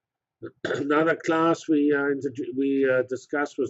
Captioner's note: cough